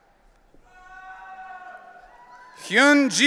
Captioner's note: audience cheering